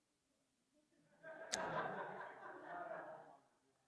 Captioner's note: audience laughs